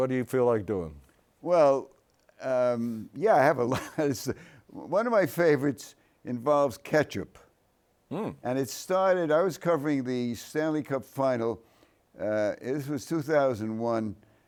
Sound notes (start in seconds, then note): 3.7 chuckles